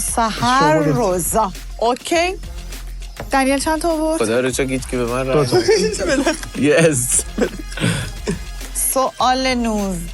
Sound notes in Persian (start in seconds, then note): 5.4 خنده